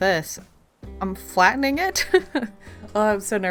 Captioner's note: nervous laugh